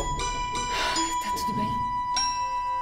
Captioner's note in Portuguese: ofegante